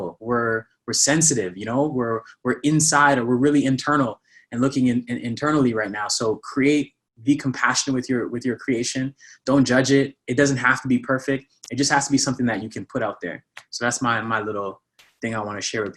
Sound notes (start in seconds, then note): none